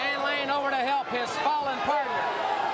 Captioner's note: crowd cheering